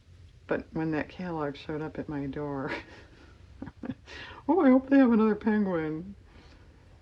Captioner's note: laughs